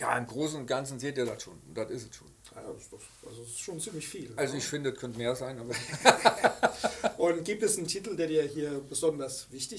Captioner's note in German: lachen